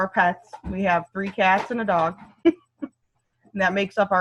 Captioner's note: laughs